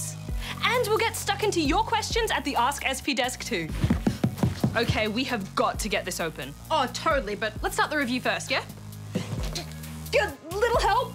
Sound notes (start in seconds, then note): 3.8 thumping, banging; 9.0 groans